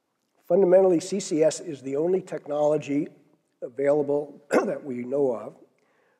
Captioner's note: cough